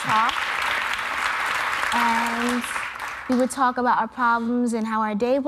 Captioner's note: applause